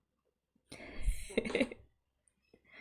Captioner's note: laughs